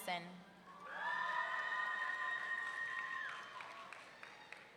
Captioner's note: audience cheering